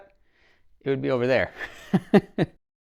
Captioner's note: laughs